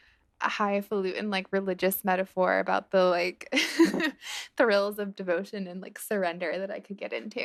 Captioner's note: laughter